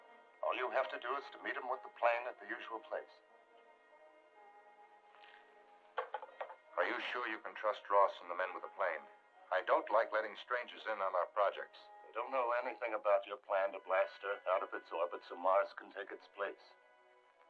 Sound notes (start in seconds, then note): none